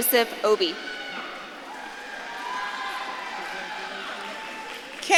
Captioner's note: audience claps and cheers